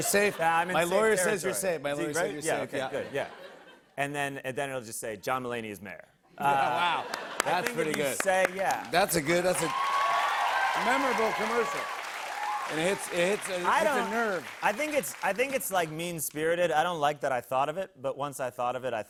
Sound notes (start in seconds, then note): 9.7 cheers and applause